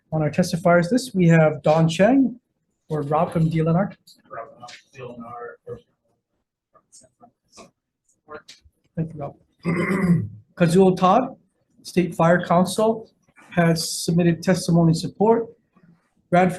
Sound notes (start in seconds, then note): 4.9 speaking off-mic